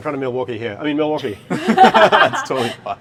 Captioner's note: all laugh